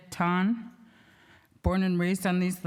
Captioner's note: speaking indigenous language